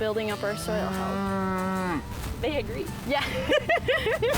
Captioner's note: cattle lowing; both laughing